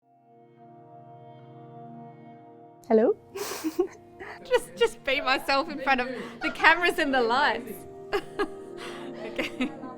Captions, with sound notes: - Hello. (giggles) - Just be myself in front of the cameras and the lights.